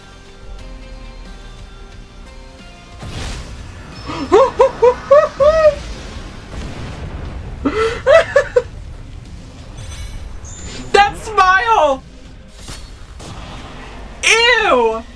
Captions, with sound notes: [laughs incredulously] [still laughing] That smile! Eww!